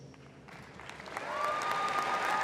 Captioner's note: applause